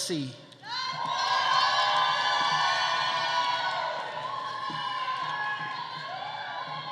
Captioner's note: audience cheering; audience applauding